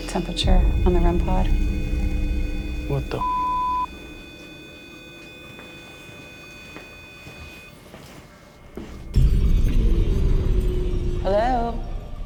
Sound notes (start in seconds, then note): 3.9 beeping; 8.8 ominous music